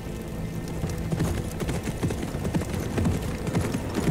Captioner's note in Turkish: At nalı sesi